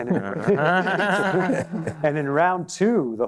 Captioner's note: laughter